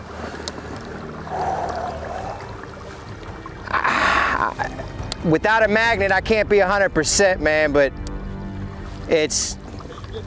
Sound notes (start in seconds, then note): 1.3 exhaling slowly; 3.9 stammering